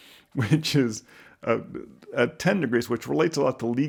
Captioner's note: chuckles